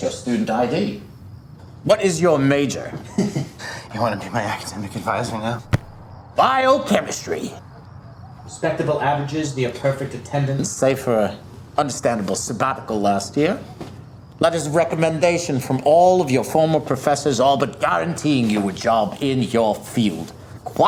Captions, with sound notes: That's your student ID. What is your major? - (chuckles) You wanna be my academic advisor now? - Biochemistry! Respectable averages, the perfect attendance, save for a understandable sabbatical last year. Letters of recommendation from all of your former professors, all but guaranteeing you a job in your field.